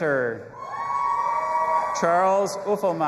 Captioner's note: audience applauding and cheering